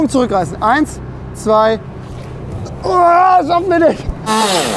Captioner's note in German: Schreit